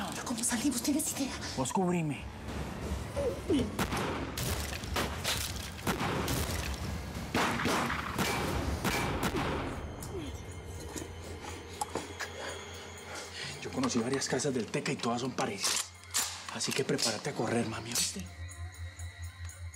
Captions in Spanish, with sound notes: >>PERO, ¿CÓMO SALIMOS? ¿TIENES IDEA? >>PUES, CUBRIME. [CONTINÚA FUEGO CRUZADO] >>YO CONOCÍ VARIAS CASAS DE EL TECA Y TODAS SON PARECIDAS. ASÍ QUE PREPARÁTE A CORRER, MAMI, ¿OÍSTE?